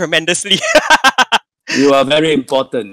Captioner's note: laughing